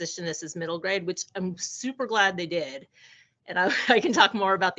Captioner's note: chuckling